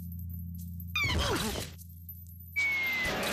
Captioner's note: groaning